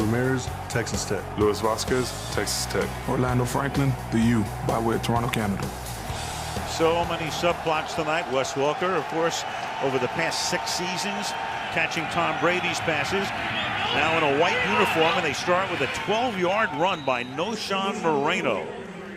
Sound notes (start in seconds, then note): 6.3 cheering